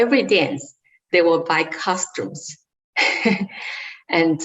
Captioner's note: laughs